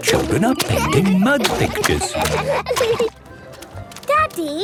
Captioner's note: laughter